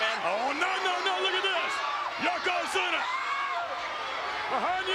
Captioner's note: spectators cheering